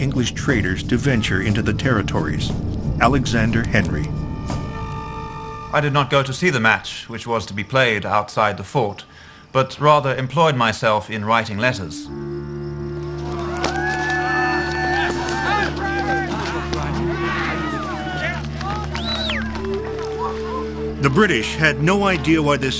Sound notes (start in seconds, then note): 12.8 players cheer; 18.6 onlooker whistles